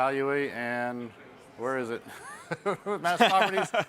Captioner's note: chuckles